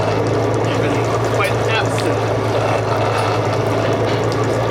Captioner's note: motor whirring